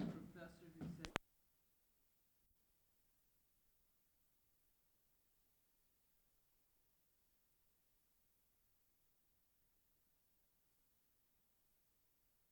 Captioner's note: silence